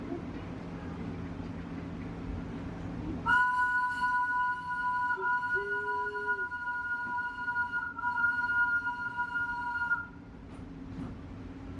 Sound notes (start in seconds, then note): 3.2 train whistle